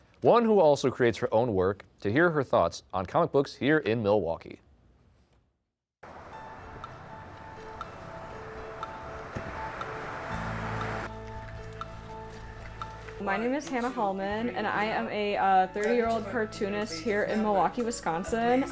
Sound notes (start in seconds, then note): 6.0 traffic droning; 6.2 gentle music